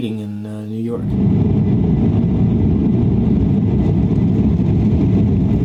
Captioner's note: airplane engine roaring